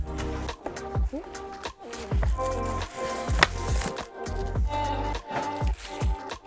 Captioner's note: crackling; rattling